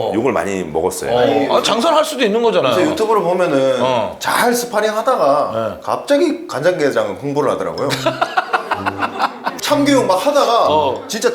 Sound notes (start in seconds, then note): 7.8 ah ha ha ha ha